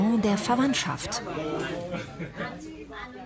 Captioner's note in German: Stimmengewirr